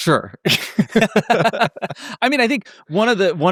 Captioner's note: laughing